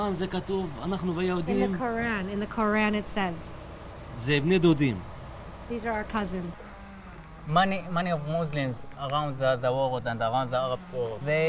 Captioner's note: speaking arabic